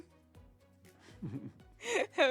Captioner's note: laughs